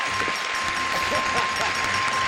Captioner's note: shrieks; laughs